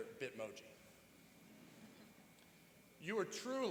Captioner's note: chuckling